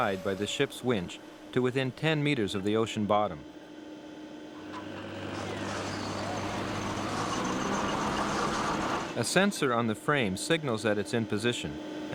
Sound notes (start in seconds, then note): 4.7 machine rattling